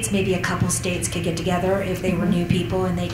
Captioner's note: chuckles